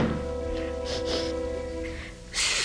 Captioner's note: sniffles